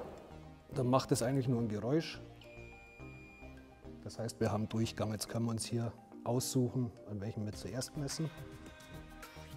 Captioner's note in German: Piep